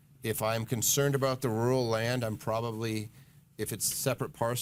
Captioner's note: none